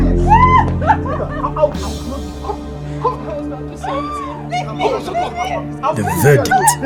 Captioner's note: laughter